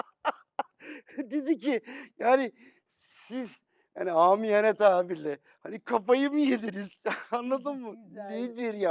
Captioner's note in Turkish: kahkaha